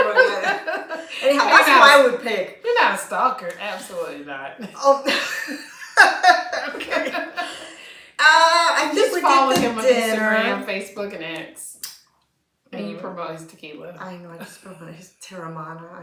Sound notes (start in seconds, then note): 4.6 laughter